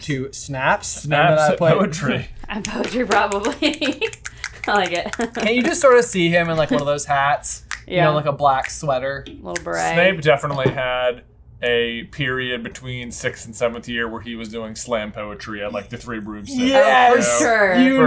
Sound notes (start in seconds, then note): 4.1 snapping